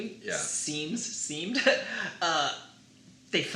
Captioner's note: laughs